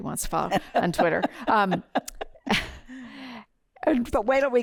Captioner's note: laughter